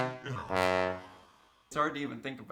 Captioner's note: growling